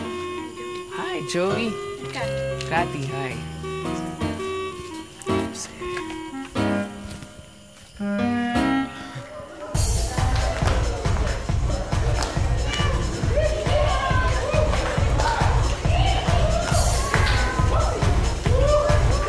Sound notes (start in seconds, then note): 5.1 whispers; 9.7 people cheering; 9.7 upbeat music playing